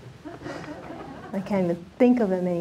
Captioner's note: audience laughing